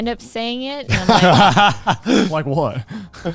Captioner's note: laughing